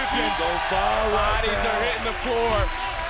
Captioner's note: crowd cheering